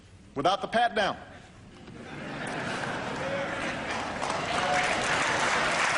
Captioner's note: laughter and applause